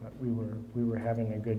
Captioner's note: none